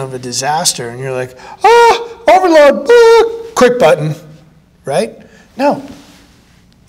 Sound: shouts in alarm

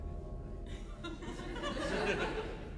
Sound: audience laughter

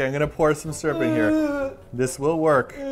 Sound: still making vomit sounds

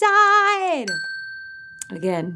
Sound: bell dings

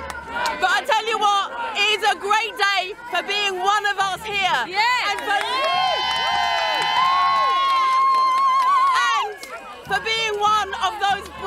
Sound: cheering

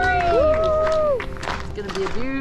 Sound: crowd cheers and applauds

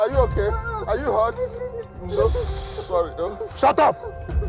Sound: woman crying

